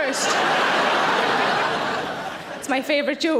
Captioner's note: audience laughing